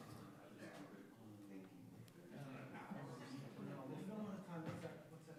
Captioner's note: councillors murmur